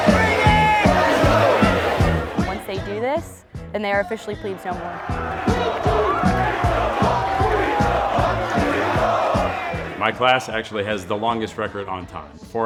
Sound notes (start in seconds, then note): 5.4 crowd cheering